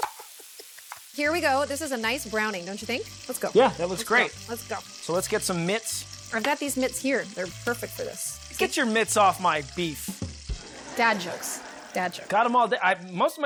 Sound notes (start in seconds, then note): 10.6 canned laughter